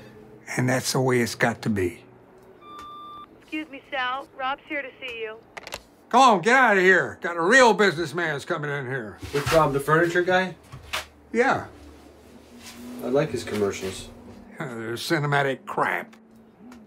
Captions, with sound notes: AND THAT’S THE WAY IT’S GOT TO BE. ( intercom buzzes ) Woman:EXCUSE ME, SAL. ROB’S HERE TO SEE YOU. GO ON, GET OUTTA HERE. GOT A REAL BUSINESSMAN THAT’S COMIN’ IN HERE. THIS ROB THE FURNITURE GUY? YEAH. I LIKE HIS COMMERCIALS. THEY’RE CINEMATIC CRAP.